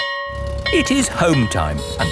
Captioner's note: school bell ringing